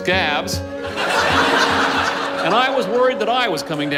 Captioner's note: laughter